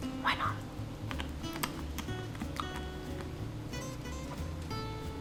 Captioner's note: lotus crunching